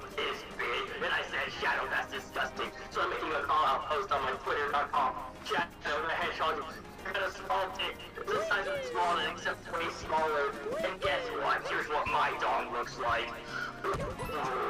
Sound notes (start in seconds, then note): 13.4 breathe in